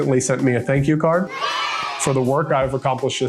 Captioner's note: kids cheering